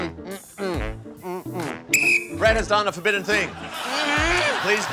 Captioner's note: blows whistle